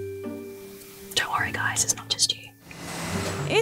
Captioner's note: whispers